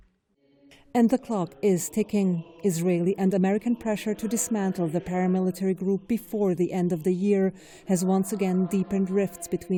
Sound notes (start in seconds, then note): 1.4 voice-over